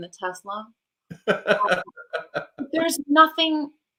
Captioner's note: laughs